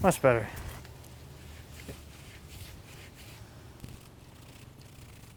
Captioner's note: brushing